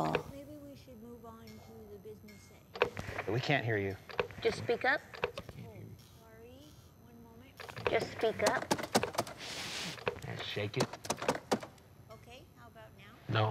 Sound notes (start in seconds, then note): 7.6 thumping; 8.4 blowing